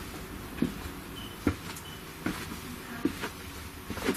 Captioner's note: footsteps